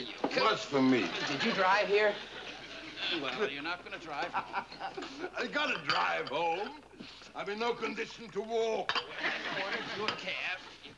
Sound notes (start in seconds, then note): 4.3 George laughs